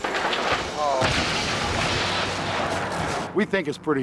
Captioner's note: yacht crashes